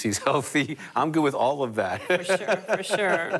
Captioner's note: laughter